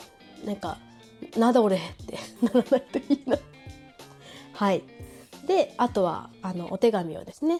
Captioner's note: laughs